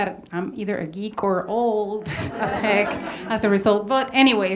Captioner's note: audience laughs